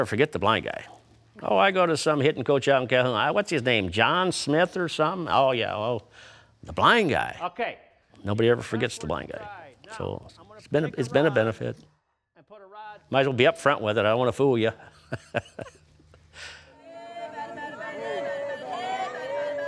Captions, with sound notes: You'll never forget The Blind Guy. "Oh, I go to some hitting coach out Calhoun, "what's his name? John Smith or something? Oh, yeah, oh." Well, The Blind Guy! Okay! Nobody ever forgets the blind guy. So, it's been a benefit. Might as well be up front with it. I don't want to fool you. (laughs)